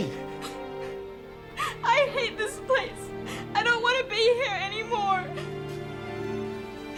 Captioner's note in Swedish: gråter; dramatisk musik